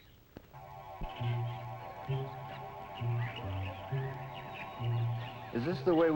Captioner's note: birds chirping; mysterious music